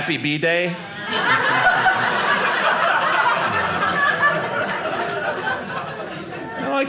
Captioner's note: audience laughing